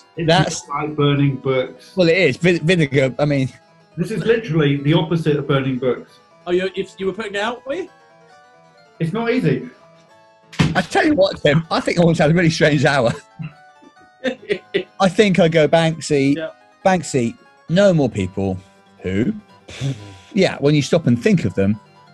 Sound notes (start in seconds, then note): 10.6 books thuds on floor; 14.2 chuckling; 19.6 exhales